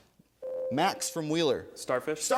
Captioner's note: ding